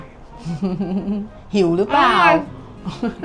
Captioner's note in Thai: เสียงหัวเราะ